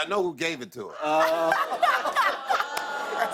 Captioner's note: laughter